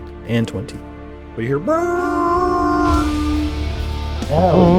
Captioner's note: horn noise